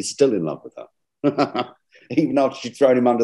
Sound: chuckles

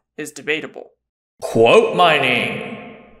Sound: voiceover

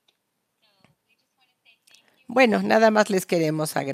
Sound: a través de intérprete

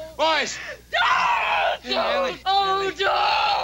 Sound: Ellie screaming

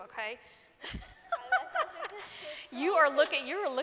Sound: laughs

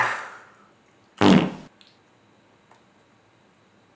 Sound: fart

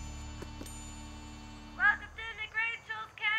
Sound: knock knock

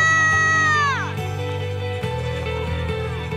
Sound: crowd cheering and applauding

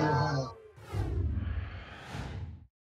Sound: whoosh

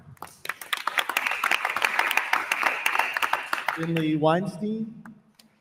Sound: attendees applauding

